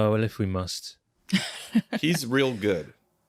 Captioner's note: chuckles; chuckling